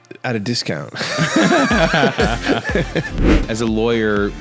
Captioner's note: both laughing